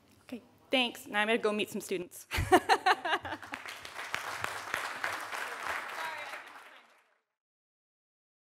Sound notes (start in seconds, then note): 2.5 laughs; 3.2 audience applauds